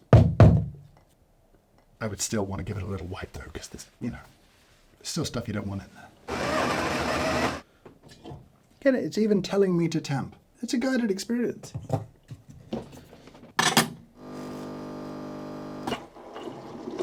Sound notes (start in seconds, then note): 6.2 machine grinding; 14.2 machine brewing sounds